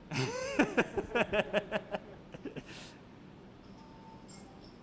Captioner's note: laughing